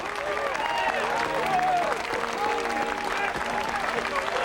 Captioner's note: crowd cheering